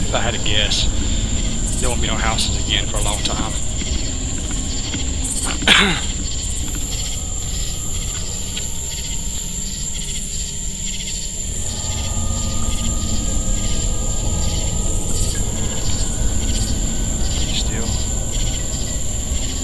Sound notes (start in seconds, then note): 4.0 crickets chirping; 4.0 ominous music